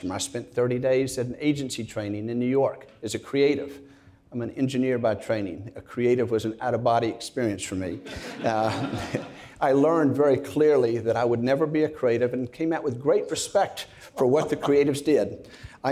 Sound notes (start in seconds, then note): 8.0 audience laughs; 8.1 chuckles; 14.2 laughs